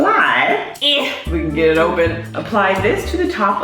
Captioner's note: muffled struggle sound